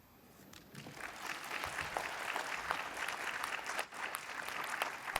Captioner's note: participants clap